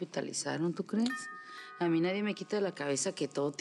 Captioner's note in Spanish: Timbre de la puerta